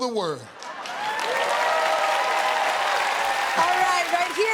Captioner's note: cheers and applause